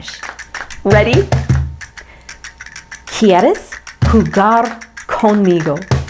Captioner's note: speaking foreign language